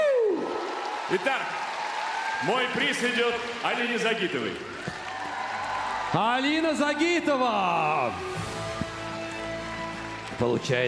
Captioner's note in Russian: ликование